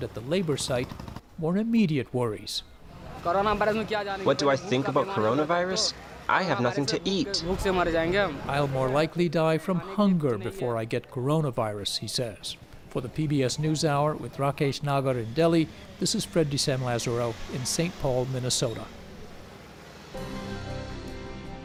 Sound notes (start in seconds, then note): 3.0 through translator